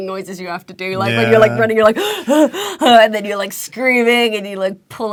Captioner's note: running breath